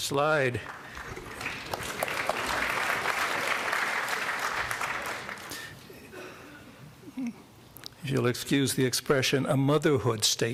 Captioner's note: applause